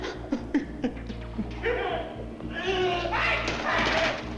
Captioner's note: he shouts